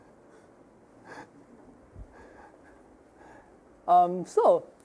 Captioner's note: laughing